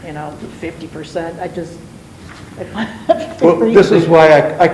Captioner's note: chuckles